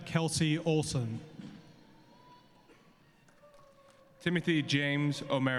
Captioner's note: cheering and applause